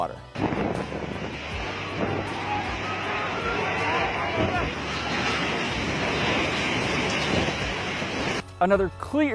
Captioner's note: people screaming and waves crashing